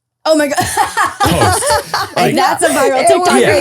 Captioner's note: laughing